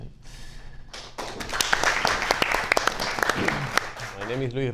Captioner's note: audience applauds